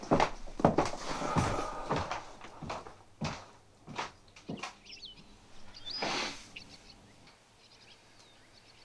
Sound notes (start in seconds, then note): 1.0 sighing; 4.7 birds chirping